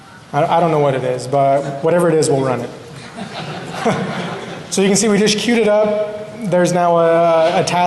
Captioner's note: laughter